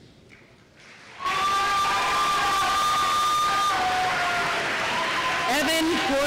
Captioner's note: applause